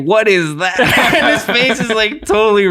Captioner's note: innocent, laughing